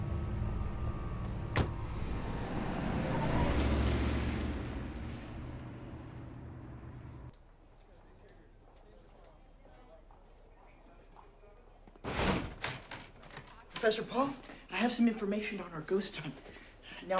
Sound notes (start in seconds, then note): 1.5 car door thuds; 1.7 car whooshing; 12.0 door thuds